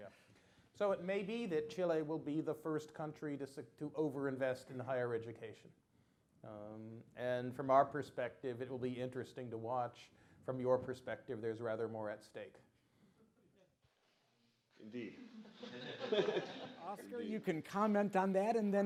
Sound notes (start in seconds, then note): 15.2 laughter